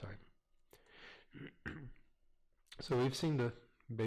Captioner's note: pause